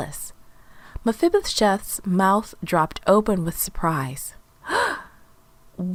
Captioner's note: gasp